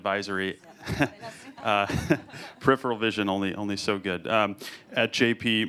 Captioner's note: laughs